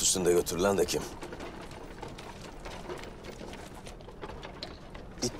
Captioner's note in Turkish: At ayak sesleri